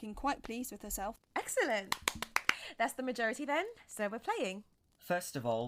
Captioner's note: she claps her hands together